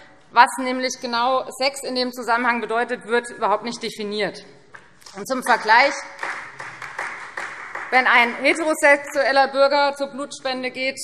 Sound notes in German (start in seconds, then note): 5.4 Beifall Freie Demokraten und vereinzelt DIE LINKE